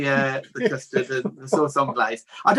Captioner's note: laughs